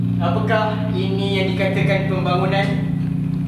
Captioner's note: none